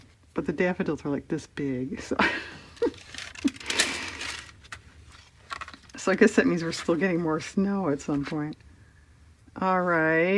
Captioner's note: laughs